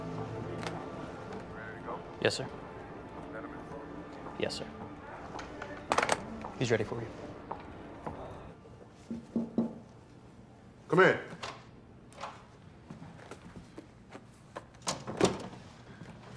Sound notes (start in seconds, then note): 9.1 knocking on door; 11.3 door opens; 14.8 door shuts